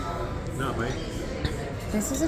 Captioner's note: backgroung chatter